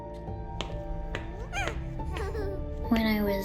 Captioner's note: baby laughing